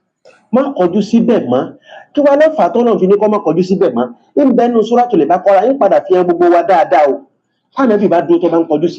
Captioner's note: reciting Arabic